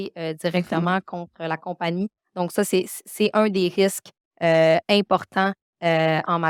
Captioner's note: continues speaking French